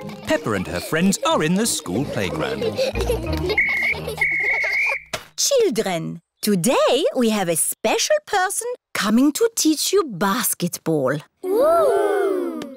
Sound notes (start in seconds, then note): 4.2 blows whistle